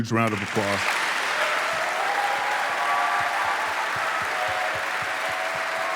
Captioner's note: audience applauding and cheering